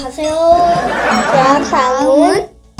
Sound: laughs

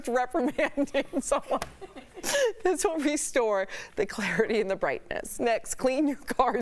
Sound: laughter

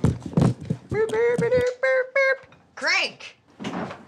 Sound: simulates musical sounds

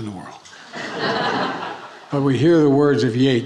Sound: attendees laughing

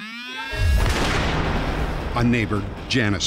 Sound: gunshot

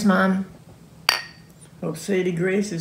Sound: glass clank

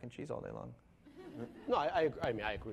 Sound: laughing

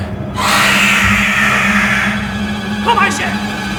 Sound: loud monster roars

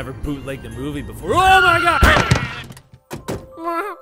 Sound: tires screech

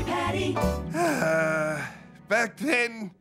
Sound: sighing

